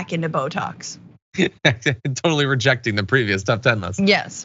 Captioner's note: laugh